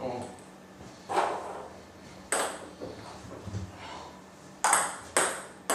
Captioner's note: balls ping pong hitting continues